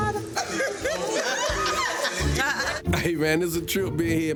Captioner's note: group laughing